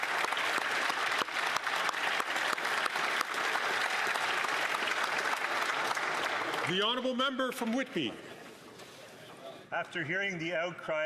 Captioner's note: some Applause